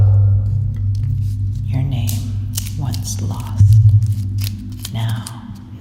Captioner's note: whispering